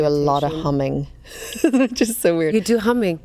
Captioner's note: laughs